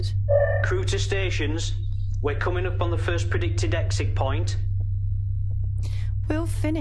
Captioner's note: intercom